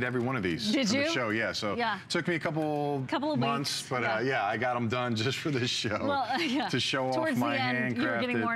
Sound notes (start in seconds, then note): 6.0 laughter